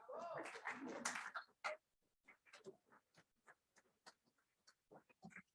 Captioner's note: applause